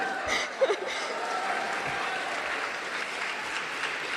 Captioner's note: laughs; cheers and applause